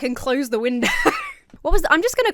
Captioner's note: laughs